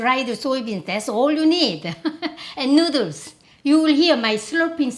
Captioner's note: laughs